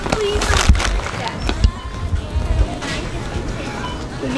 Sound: scanner beeps

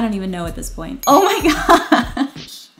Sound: bell dings

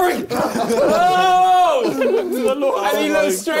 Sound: both laughing

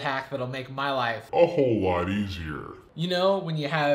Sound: slow motion deep voice

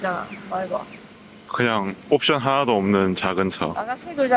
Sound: Korean accent

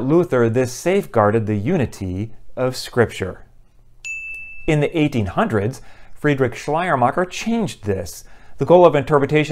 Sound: chime

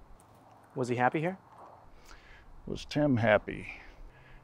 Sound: none

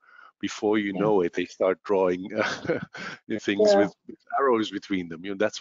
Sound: laugh

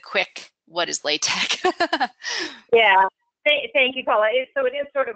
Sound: laughs

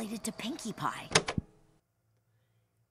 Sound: emphatic tape shutoff clunk

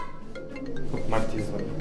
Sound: phone ringing

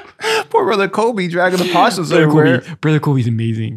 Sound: audio muffling

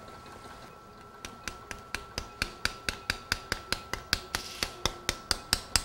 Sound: hammering with mallet

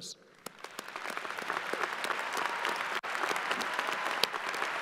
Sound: crowd applauding

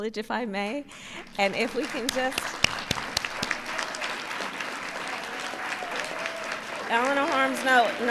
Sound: applause

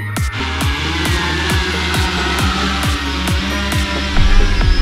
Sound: electric motor whirring

